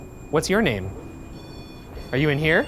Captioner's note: REM pod beeping